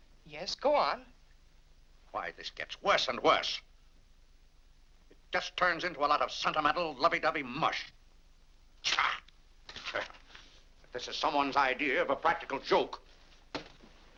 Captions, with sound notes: - Yes, go on. - Why, this gets worse and worse! It just turns into a lot of sentimental, lovey-dovey mush. (grumbles) (paper crumples) If this is someone's idea of a practical joke...